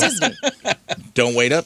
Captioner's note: laughing